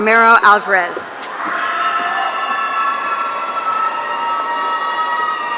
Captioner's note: audience cheering